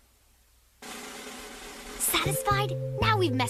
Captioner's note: whispering